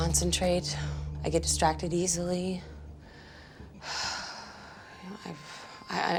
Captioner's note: sighs